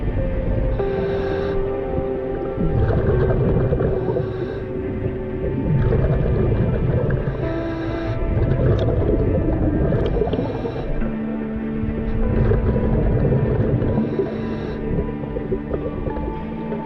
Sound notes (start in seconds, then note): 1.0 dramatic music continues; 8.9 underwater sounds continue